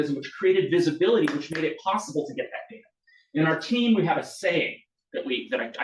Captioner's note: audience claps